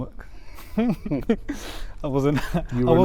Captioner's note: laughter